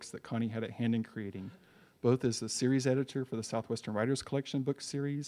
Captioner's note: none